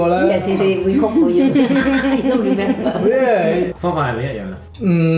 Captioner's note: laughs